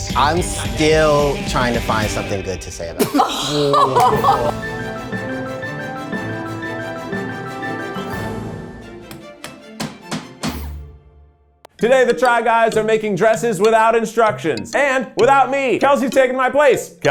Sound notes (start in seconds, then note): 3.1 participants gasp; 5.3 upbeat music